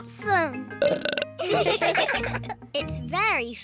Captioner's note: burps; all laugh